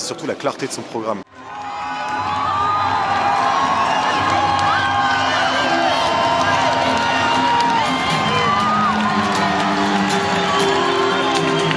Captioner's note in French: Acclamations et applaudissements